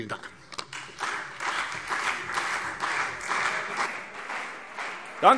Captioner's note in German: Beifall CDU und Freie Demokraten